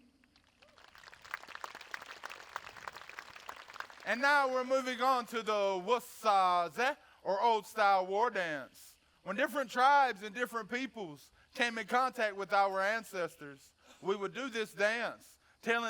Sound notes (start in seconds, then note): 0.5 audience applauding; 5.5 speaks foreign language